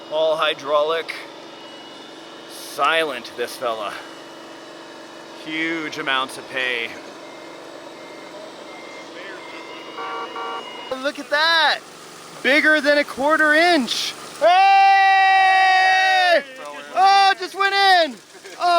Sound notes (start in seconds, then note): 1.2 mechanical whirring; 6.5 mechanical beeping; 10.1 horn honking